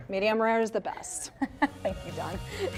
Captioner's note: laughing